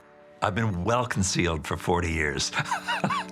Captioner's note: laughs